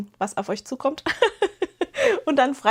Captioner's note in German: gelächter